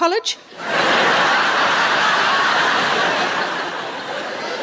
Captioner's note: audience laughing